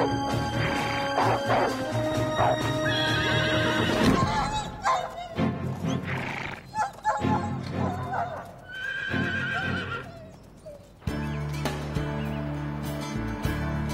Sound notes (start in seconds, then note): 0.6 horse snorts; 4.1 wolf whimpers; 5.8 horse snorts; 8.6 horse neighs; 11.0 relaxing music